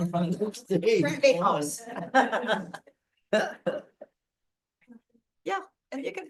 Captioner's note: laughs